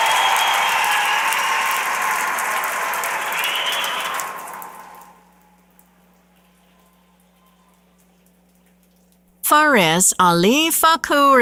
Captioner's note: applause